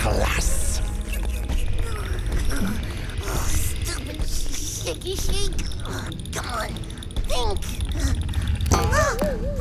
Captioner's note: chattering from the cold